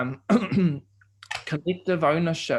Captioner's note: clearing throat